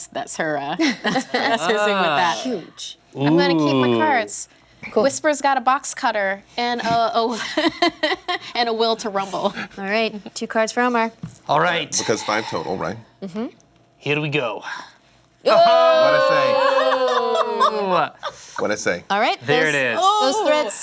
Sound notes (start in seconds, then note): 15.7 shouting